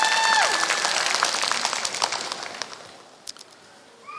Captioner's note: applause